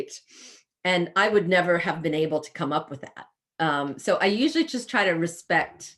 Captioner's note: sniffs